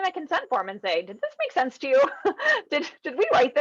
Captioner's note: laughing